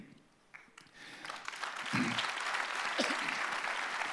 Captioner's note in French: Applaudissements